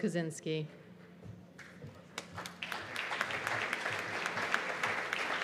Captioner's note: applause